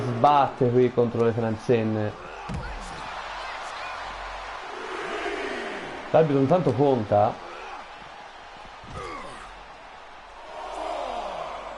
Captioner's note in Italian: Applauso